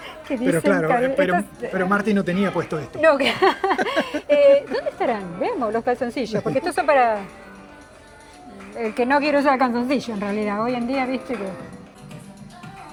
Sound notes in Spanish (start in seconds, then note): 3.0 risas